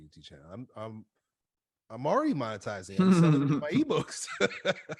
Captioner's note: laughs